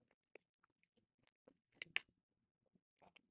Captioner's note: both munching